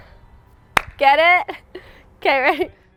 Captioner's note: claps hands